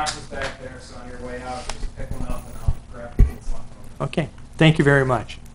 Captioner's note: faintly speaking